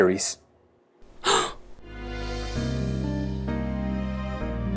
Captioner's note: batteries gasping